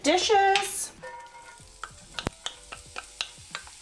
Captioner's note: sizzling